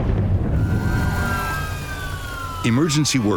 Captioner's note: sirens wailing